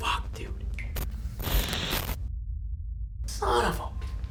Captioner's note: static buzzing